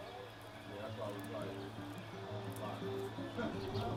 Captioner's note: soft indistinct chatter; soft acoustic music